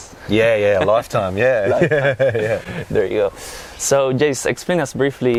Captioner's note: risas